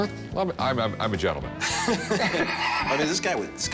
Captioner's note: laughter